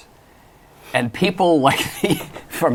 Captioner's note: laughs